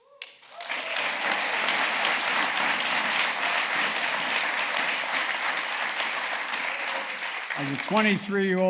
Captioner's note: applause